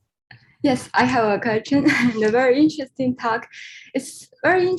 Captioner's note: laughs